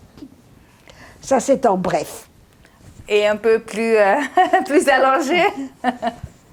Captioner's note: laughing